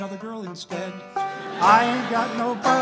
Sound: laughter

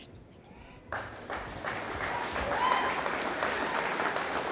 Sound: audience applauding

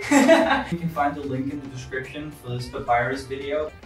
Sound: laughs

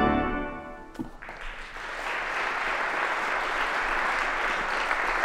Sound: applause

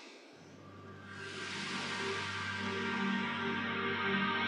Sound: water flowing

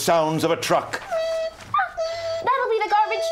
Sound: beeping

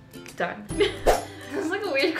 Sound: laughs

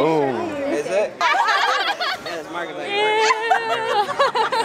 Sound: laughing

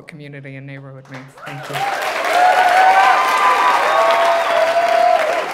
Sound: audience applauding

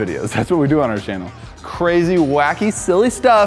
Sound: none

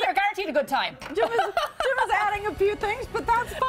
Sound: laughter

